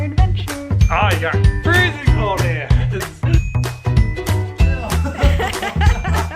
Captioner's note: laughing; laughs